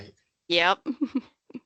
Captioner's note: chuckling